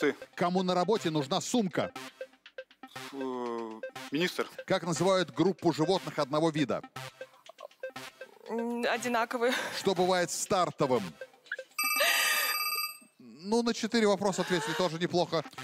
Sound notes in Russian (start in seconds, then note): 11.7 звонок